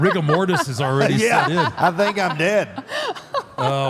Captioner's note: Michelle laughs